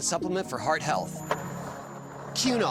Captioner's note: skateboard wheels roaring